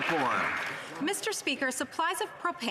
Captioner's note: applause